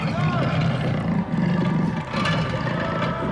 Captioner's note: snarls